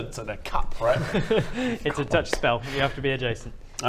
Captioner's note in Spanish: risas